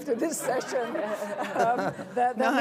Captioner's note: laughter